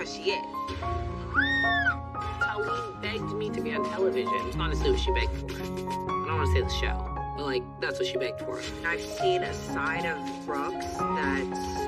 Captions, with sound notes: "but that's because she is." [screaming] - Taleen begged me to be on television. Honestly, it's what she begged for. I don't want to say the show, but, like, that's what she begged for.